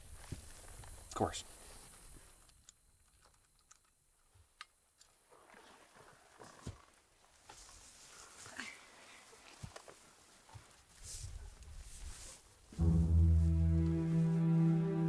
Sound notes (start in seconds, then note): 12.7 footsteps